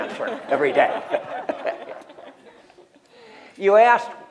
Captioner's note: laughter